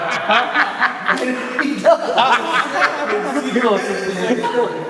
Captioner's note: laughter